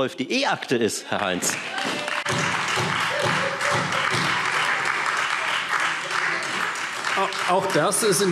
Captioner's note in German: Heiterkeit und Beifall Freie Demokraten und SPD